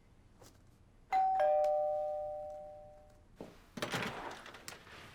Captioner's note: doorbell ringing